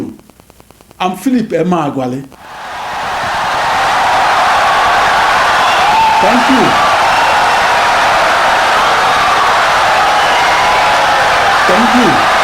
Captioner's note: wild applause and cheering for 17 seconds